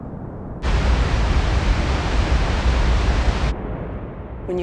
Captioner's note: thundering waterfall; faint roar of waterfall; roaring waterfall